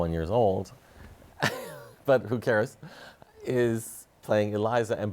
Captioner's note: chuckles